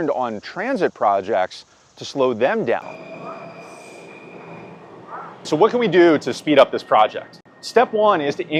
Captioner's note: train screeching